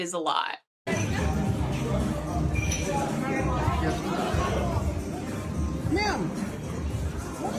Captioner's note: lively music; people chattering